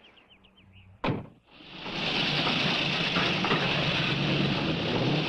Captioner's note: engines revving